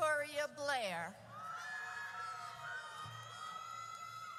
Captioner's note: audience cheers